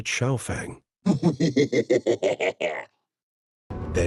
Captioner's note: gang laughing out loud